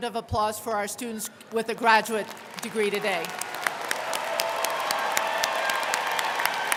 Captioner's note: crowd clapping